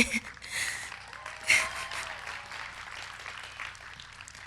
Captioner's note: audience applauds